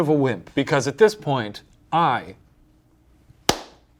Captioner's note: clapping